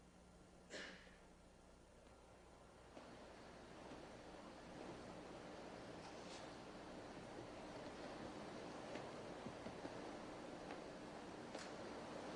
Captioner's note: coughing in the audience